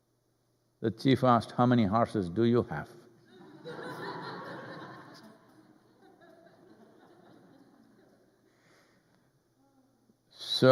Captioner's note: laughter